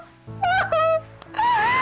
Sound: crying

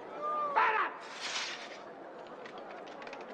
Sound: soldiers moving in unison

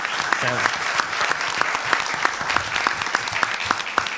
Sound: applause

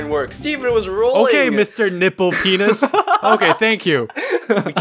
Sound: laughs

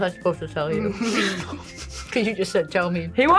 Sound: both laugh

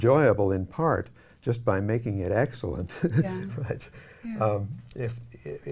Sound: laughing

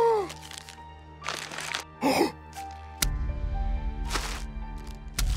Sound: JFK gasps; photo crinkling

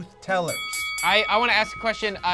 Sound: bell rings

